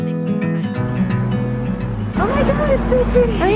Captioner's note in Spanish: chicas hablando indistintamente